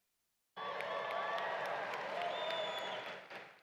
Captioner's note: applause